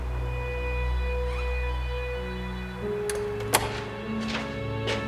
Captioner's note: door creaking